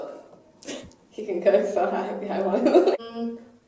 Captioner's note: laughter